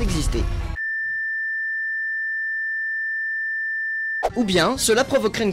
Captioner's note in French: bip aigu